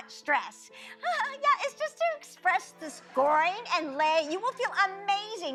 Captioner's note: laughs